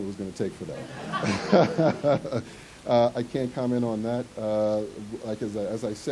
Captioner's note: ha-ha-ha-ha